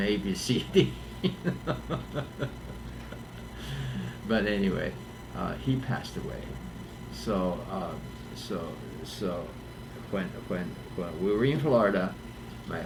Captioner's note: laughs